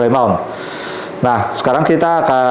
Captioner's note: inhale